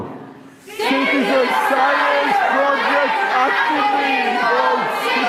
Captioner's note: group shouting